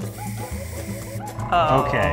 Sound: air blowing

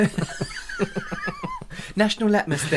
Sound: laughter

